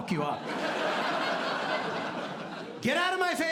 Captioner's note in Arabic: ضحك